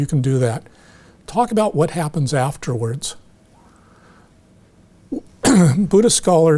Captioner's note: clears throat